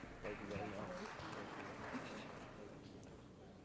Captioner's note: applause